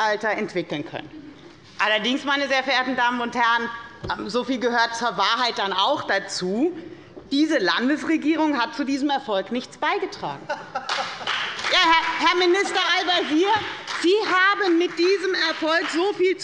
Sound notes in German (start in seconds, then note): 10.6 Beifall bei der FDP - Lachen des Ministers Tarek Al-Wazir